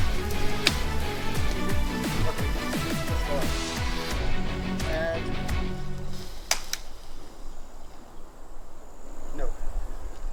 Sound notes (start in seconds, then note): 6.5 cracking noise